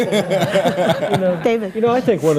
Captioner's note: all laugh